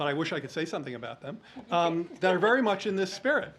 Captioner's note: laughs